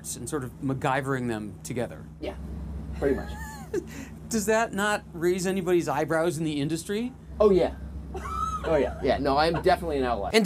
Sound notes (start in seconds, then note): 3.1 interviewer chuckles; 8.1 interviewer chuckles